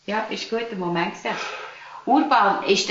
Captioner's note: sighs